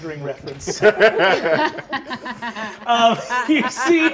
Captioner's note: all laugh